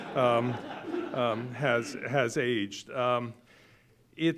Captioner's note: audience laughing